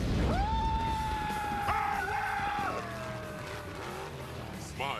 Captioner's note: screaming